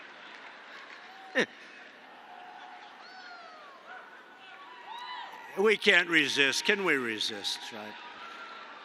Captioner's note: laughs